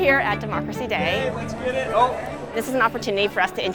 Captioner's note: students chattering